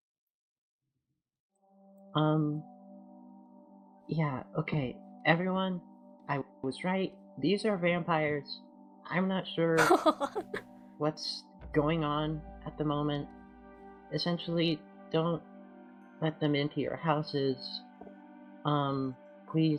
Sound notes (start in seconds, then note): 9.8 ROSE laughs